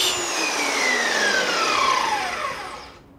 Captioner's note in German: Das Surren stoppt